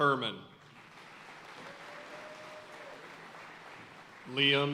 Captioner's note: audience cheering and applauding